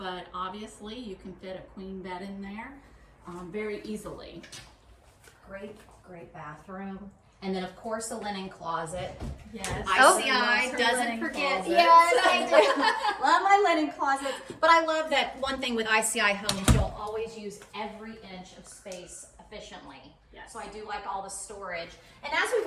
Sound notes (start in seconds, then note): 10.3 group laughing; 16.3 door closing